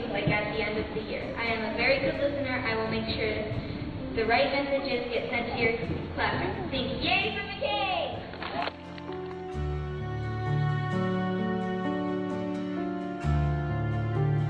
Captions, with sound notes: like at the end of the year. I am a very good listener. I will make sure the right messages get sent to your classrooms. Think, "Yay for McKay!" (audience applauds) (somber instrumental music)